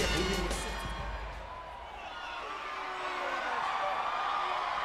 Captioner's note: audience cheering